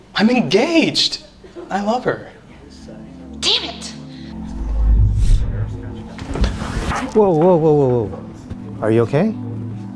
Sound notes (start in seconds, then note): 4.3 whooshes